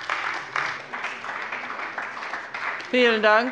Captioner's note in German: Beifall bei der CDU